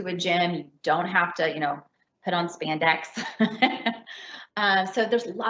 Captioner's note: laughs